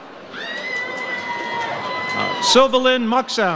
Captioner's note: audience cheers